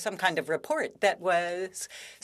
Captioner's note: speaking French